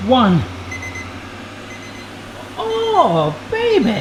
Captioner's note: beeping